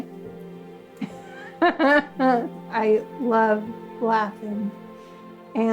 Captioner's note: laughs